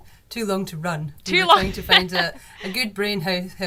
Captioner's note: laughs